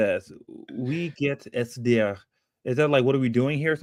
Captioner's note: speaking german